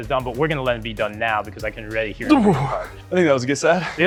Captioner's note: exclaims; murmurs